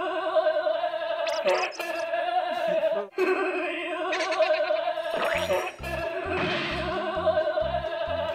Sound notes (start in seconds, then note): 2.4 laughing - what is this